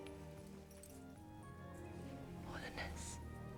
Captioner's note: whispering